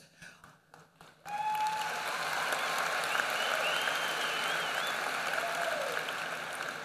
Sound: applause

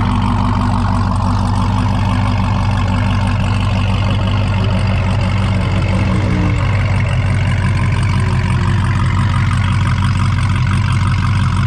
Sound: car engine running

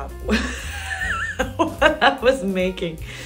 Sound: laughs

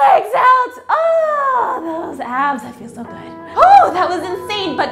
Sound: gasps

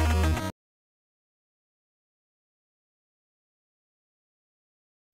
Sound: silence

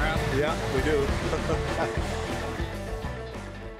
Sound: chuckles

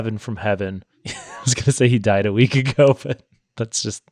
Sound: laughs

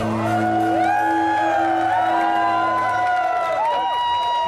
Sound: cheers

